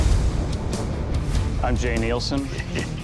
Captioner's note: chuckles; rock music